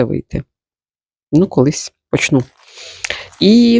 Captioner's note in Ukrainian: сопіння